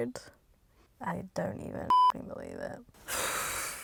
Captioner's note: beep; sighing